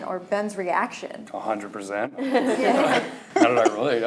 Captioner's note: laughing